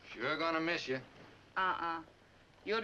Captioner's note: none